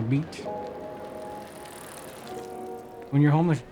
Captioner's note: bike chain clanking